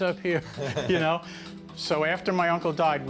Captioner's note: laughs